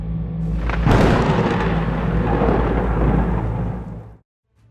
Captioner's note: tense music; thunder cracking